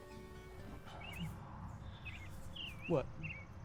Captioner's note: birds chirping